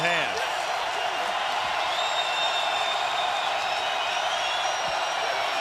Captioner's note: crowd cheering